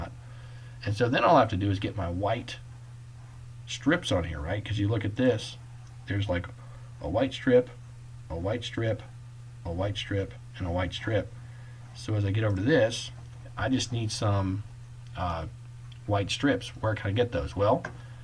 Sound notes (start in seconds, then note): none